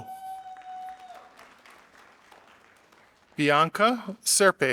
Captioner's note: audience applauding